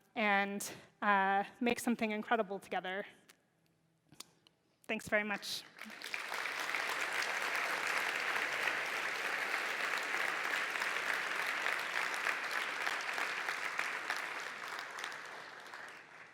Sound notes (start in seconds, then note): 5.1 applause